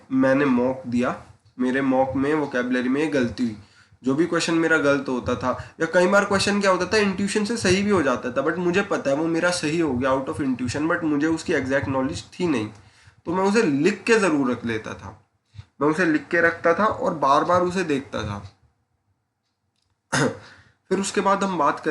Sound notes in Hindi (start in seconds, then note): 14.8 नाक से की जाने वाली आवाज़; 20.1 गला साफ़ करने की आवाज़